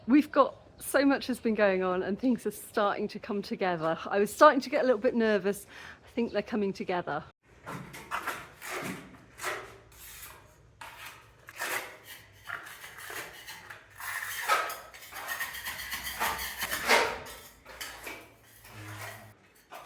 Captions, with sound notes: We've got so much has been going on and things are starting to come together. I was starting to get a little bit nervous. I think they're coming together. [scraping sounds]